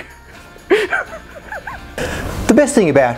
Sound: giggling

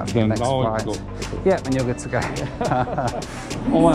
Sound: both laugh

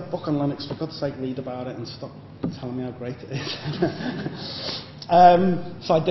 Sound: laughter

